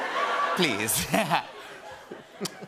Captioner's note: laughter